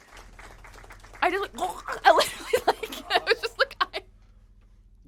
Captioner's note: applause from the chat; choking noise; laughing too hard